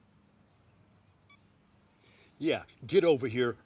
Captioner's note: phone beep